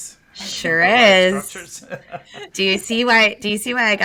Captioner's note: laughs